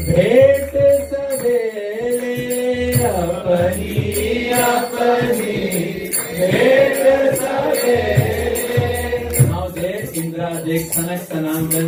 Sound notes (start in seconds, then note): 8.2 chanting